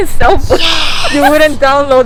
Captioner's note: sarcasm